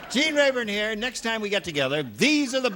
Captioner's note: laughters